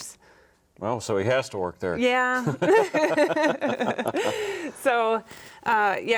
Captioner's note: both laughing